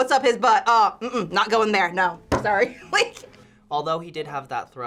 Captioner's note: laughs